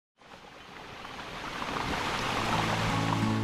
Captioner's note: sound of water